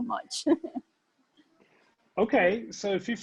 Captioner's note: laughs